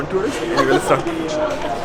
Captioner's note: laughs